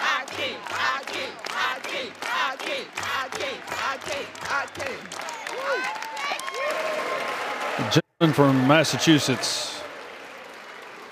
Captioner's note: crowd shouting "hakeem"